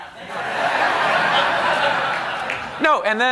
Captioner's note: laughter